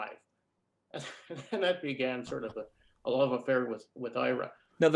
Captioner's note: chuckles